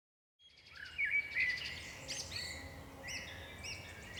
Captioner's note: birds chirping